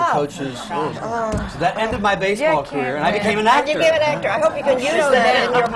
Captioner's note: laughter